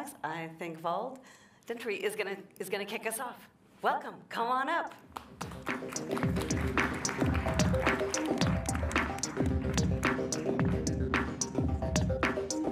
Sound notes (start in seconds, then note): 5.1 applause